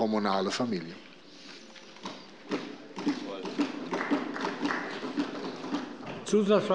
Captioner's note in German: Beifall bei der CDU und dem BÜNDNIS 90/DIE GRÜNEN